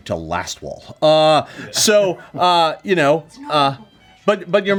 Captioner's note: laughing